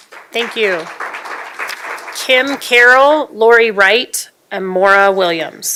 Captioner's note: applause